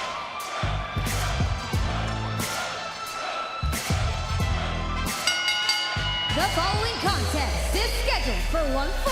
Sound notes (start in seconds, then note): 0.0 fans chanting; 5.0 bell ringing